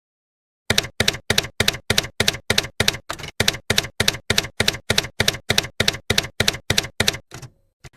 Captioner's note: typewriter keys clacking